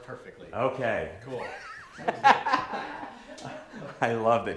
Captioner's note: laughter